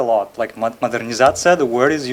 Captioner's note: speaking foreign language